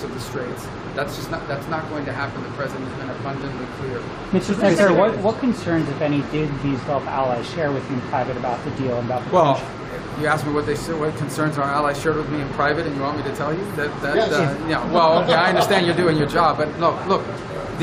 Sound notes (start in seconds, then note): 14.9 laughter